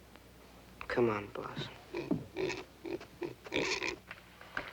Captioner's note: grunting